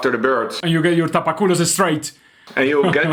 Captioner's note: laughs